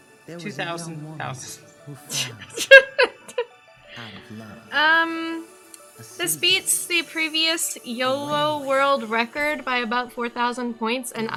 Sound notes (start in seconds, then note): 2.0 laughs